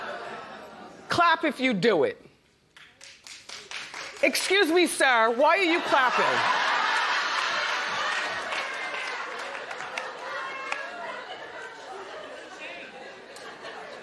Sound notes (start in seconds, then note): 10.0 scattered applause